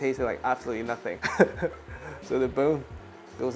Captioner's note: chuckles